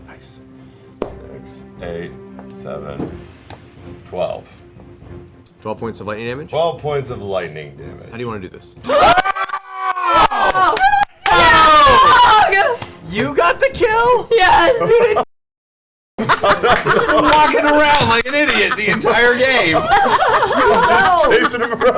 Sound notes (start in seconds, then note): 8.8 all scream and cheer